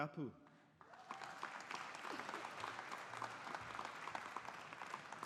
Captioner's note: audience applauding